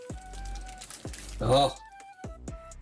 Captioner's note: crackling